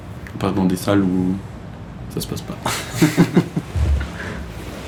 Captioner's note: laughs